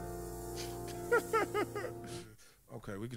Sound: laughs

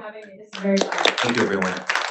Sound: audience applauds

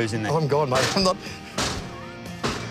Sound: banging continues

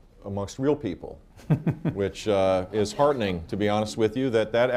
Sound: laughs

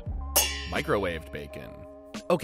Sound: pans clanging

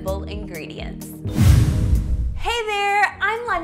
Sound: whooshing

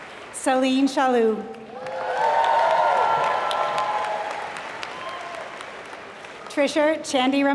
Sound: applause

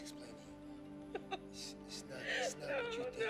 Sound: crying

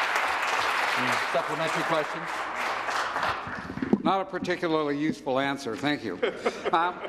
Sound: some Applause

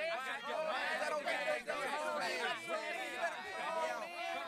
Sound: chatter

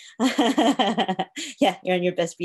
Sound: laughs

